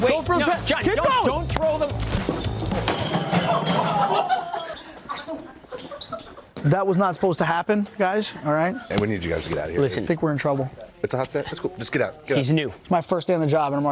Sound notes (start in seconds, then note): 1.9 coolers thudding; 3.1 crowd laughing